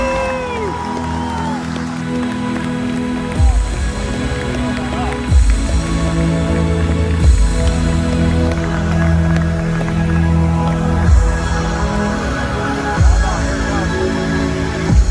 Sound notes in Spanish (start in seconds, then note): 0.0 Loud cheering